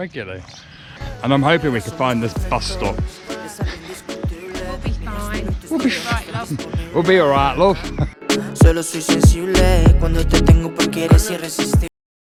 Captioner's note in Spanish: Norte de Inglaterra acento